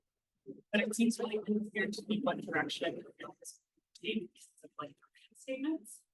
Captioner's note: faintly speaking